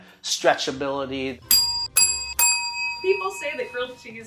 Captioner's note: ding